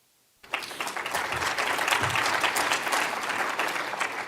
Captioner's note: applause